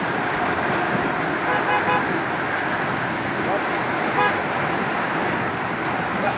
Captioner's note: car honking